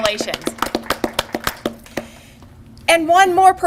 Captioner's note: applause